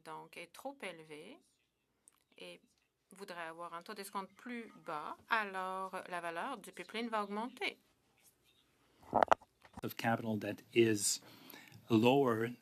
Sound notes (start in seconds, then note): 2.0 speaking French